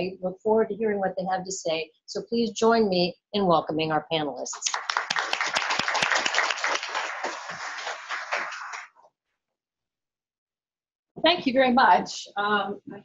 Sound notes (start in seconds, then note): 4.5 applause